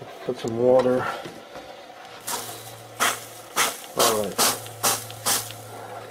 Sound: spraying sounds

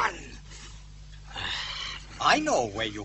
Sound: sigh

